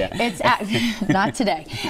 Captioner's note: laughter